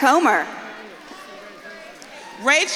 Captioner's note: audience claps and cheers